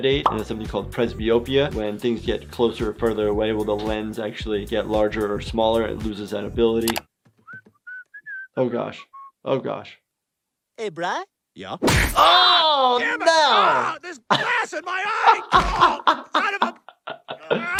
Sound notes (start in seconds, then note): 7.4 Stewie whistling; 14.1 laughing